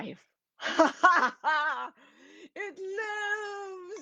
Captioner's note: laughs